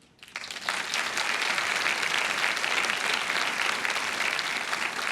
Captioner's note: audience applauding